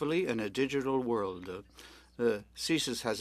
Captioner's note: speaking French